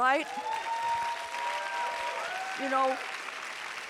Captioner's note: audience applauding and cheering